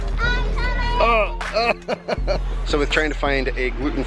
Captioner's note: laughs